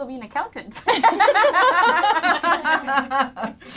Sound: all laughing loudly

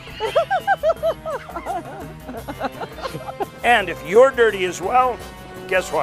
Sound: laughter

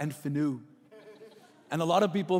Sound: laughing

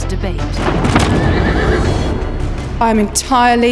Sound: body thuds; horse cries

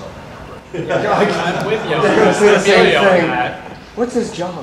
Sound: audience laughter and murmur

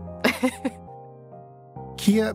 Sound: laughs

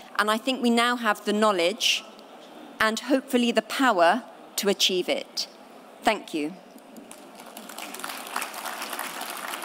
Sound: applause

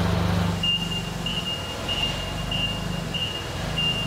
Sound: forklift beeping

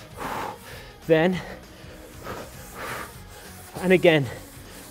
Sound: Gregg breaths rapidly

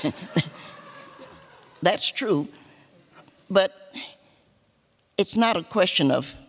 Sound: laughter

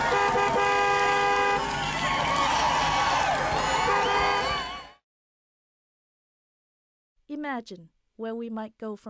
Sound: car honks, crowd cheers

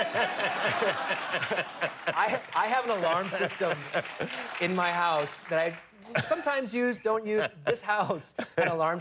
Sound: laughter

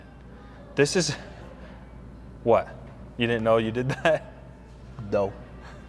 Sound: chuckles

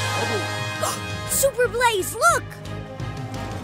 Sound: gasps

